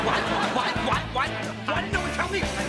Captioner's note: audience laughter